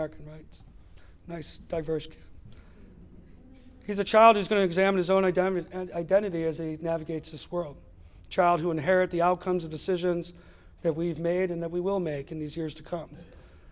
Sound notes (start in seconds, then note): none